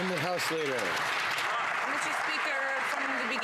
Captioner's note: some Applause